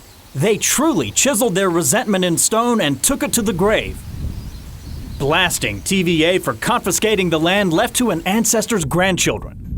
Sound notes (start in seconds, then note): 4.0 birds chirping; 9.6 wind blowing